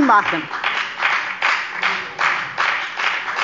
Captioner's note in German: Beifall bei der FDP